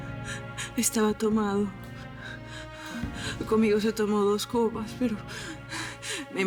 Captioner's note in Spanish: Sollozos